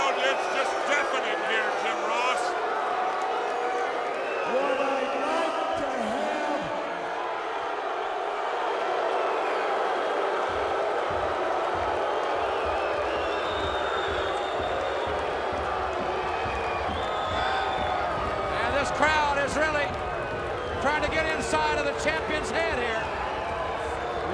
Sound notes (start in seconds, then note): 7.0 crowd booing